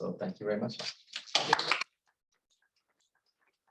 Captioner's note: applause